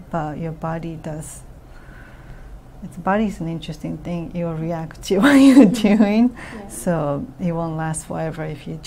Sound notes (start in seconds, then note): 5.3 laughs